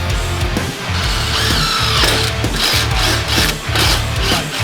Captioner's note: drill drilling